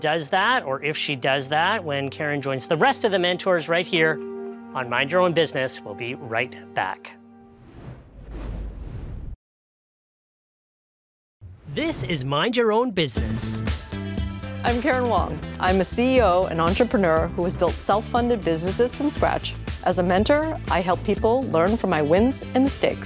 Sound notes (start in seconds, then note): 7.5 logo whooshes; 12.8 upbeat music